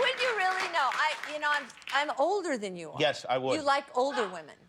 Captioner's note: laughter